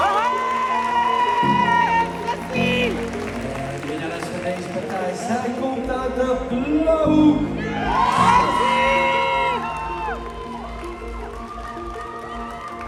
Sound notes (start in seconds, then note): 0.0 cheers; 7.6 cheers